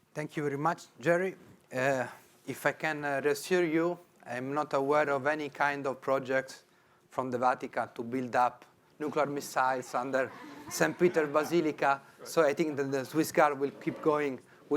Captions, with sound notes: - Thank you very much, Gerry. If I can just hear you, I'm not aware of any kind of project from the Vatican to build up nuclear missiles-- (audience chuckling) Under St. Peter's Basilica, so I think that the Swiss Guard will keep going